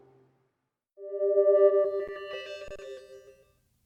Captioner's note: electronic fade-out